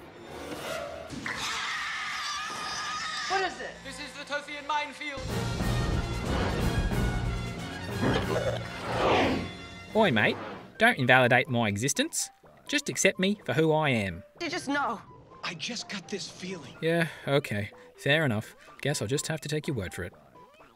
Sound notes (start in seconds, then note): 1.2 bodysnatchers scream